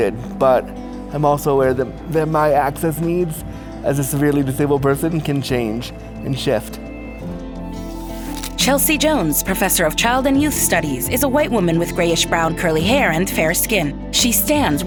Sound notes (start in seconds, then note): 7.8 camera snaps a photo; 11.4 tender music continues